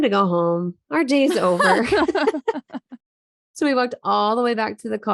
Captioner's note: laughing